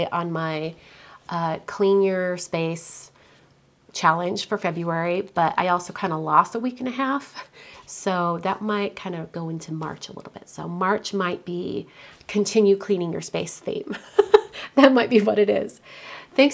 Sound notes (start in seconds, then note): 13.8 laughs